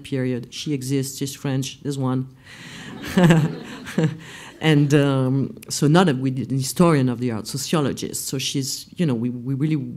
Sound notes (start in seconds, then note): 2.9 laughs